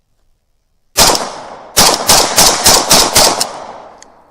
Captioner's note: gunshots